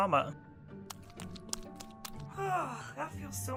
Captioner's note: squishing